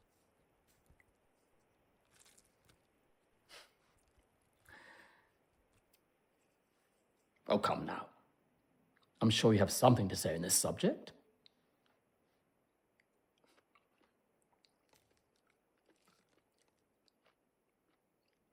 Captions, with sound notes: (orange squishes) (chuckles) Oh, come now. I'm sure you have something to say on this subject.